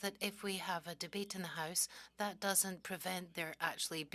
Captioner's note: speaking French